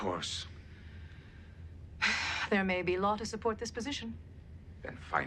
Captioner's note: sighs